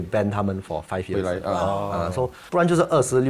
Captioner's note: Ohh